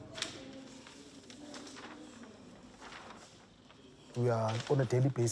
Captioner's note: paper rustling